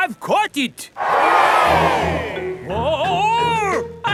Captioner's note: crowd cheers